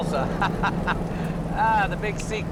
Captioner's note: chuckles